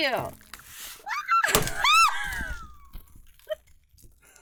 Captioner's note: squeals and party cannon boom!